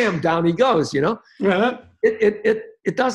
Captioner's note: hands slapping